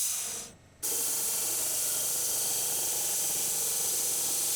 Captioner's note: saw whizzing